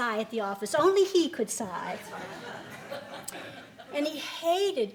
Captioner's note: laughing